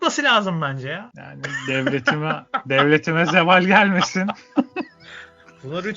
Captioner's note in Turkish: kahkaha